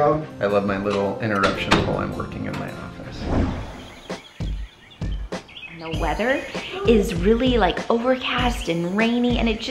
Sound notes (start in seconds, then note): 2.7 birds chirping; 4.0 upbeat music